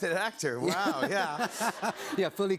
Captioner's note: laughter